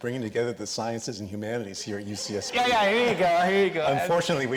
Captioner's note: chuckles